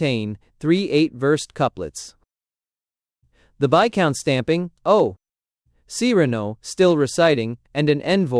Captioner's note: still reciting